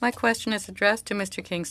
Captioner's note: speaking french